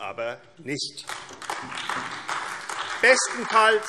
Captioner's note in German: Beifall AfD